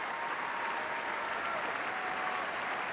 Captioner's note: applause